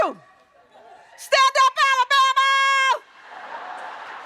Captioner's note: applause